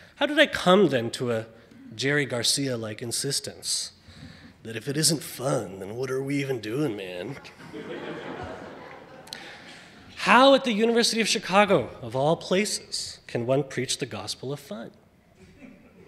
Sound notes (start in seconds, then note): 7.3 audience laughing